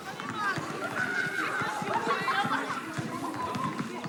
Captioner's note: children exclaiming